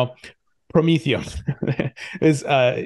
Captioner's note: laughs